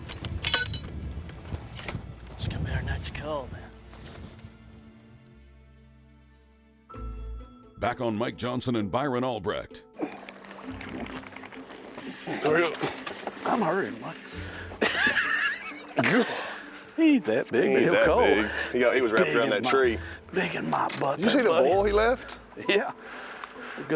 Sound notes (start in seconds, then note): 14.7 laughing